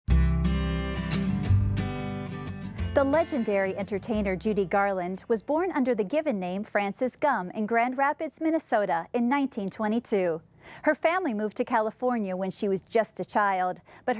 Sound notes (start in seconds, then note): 0.0 acoustic guitar music; 3.1 voiceover